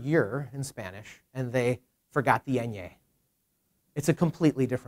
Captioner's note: speaks in Spanish